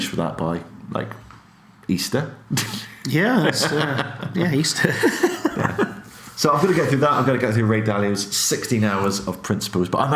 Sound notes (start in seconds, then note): 4.5 laughs